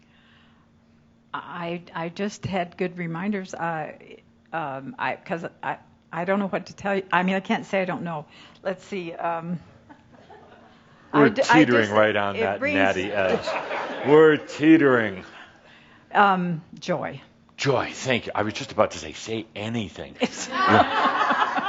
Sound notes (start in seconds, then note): 13.0 laughter